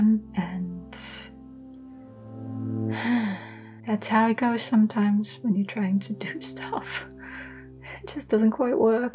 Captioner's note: sighs